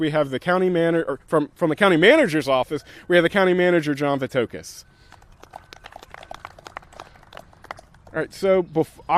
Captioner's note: applause